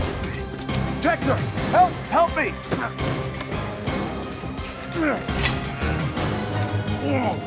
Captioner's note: door slams; grunting